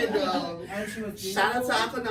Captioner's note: laughs